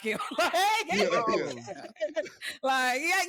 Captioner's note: laughter